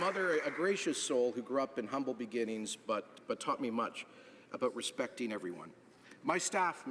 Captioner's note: applause